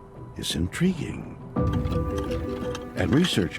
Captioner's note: scraping